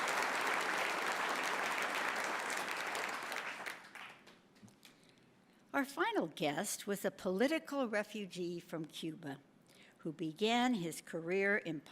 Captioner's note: applause